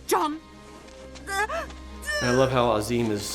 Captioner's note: Fanny cries out